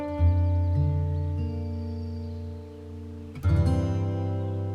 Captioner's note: birds chirping; light music